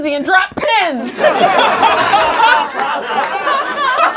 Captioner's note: laughing